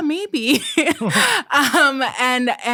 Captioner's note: both chuckling